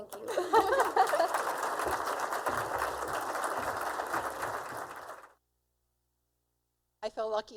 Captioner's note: applause; both laughing